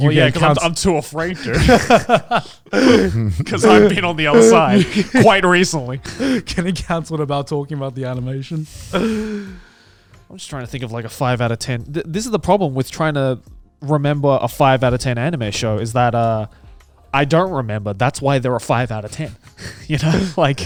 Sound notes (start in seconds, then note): 1.2 laughing